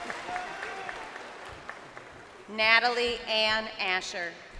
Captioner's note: crowd cheering